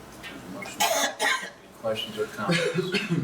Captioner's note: coughing